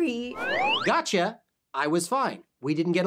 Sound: slide whistle

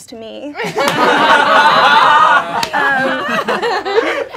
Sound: laughing

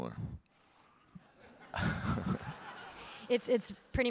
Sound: audience laughing

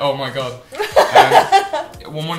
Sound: laughter

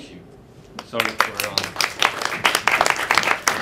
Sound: applause

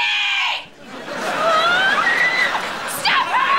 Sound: screaming

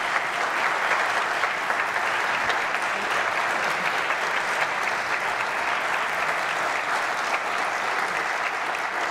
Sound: applause

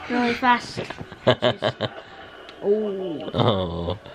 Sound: laughs

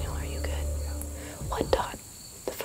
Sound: whispering

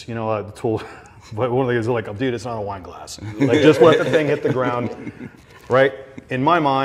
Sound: laughs

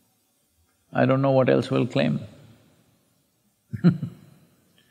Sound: laughs

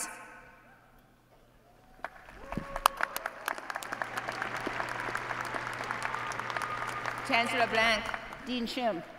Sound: applause

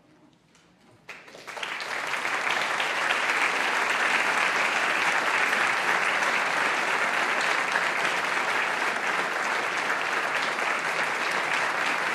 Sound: applause

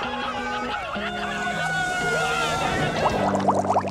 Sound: engine revving

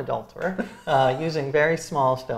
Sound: laughs

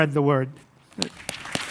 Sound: applause

